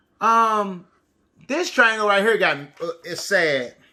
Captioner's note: none